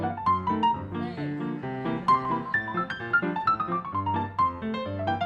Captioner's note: audience laughing